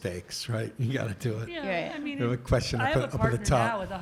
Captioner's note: panel murmuring in agreement